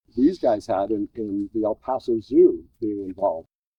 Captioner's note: none